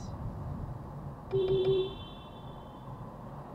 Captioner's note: beepbeepbeep